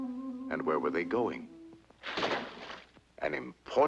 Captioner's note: water splashes